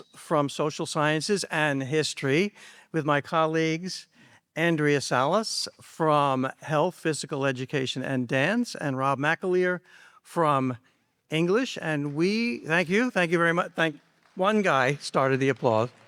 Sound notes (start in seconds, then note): 11.9 audience member applauding